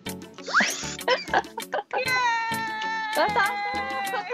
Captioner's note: noise maker